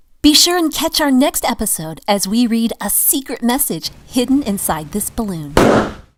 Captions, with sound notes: Be sure and catch our next episode as we read a secret message hidden inside this balloon. (balloon popping)